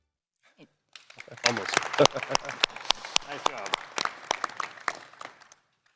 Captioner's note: applause